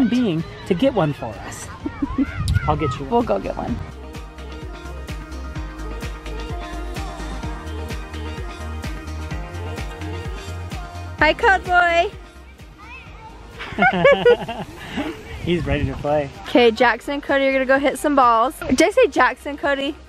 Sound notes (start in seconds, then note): 13.6 chuckle